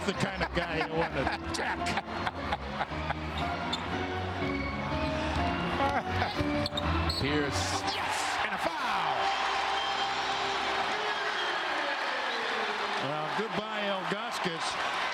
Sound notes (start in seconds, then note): 5.8 laughter